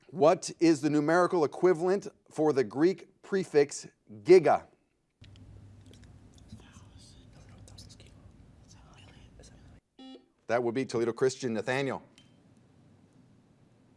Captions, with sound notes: What is the numerical equivalent for the Greek prefix "giga"? (buzzer) That will be Toledo Christian. Nathaniel.